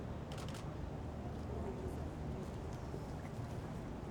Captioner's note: camera clicks